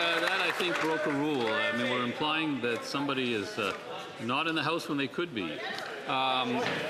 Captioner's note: some Applause